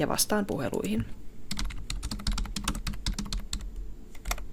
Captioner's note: keyboard tapping